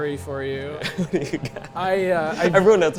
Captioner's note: laughs